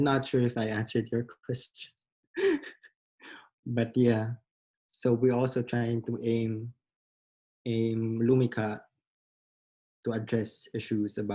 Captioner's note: laughs